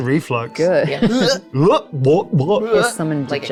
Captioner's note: hurling